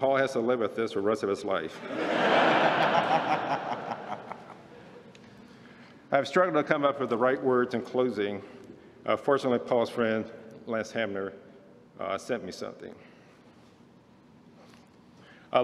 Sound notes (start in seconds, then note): 1.8 laughter